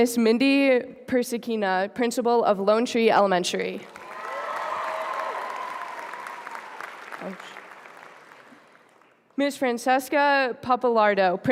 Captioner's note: applause